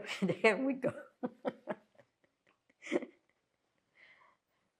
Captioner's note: laughing